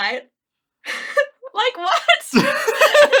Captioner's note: laughing; laughs